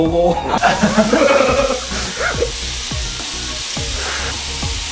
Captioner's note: chatting and laughing together